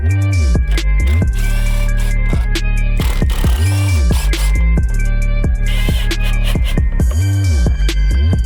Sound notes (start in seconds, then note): 0.5 drill whirs; 4.6 episode music